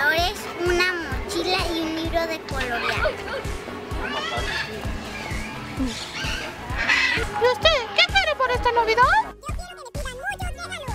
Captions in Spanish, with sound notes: Una mochila y un libro de colorear [Ruidos de ave] Y a usted, ¿qué quiere para esta Navidad? Yo quiero que me pidan muchos regalos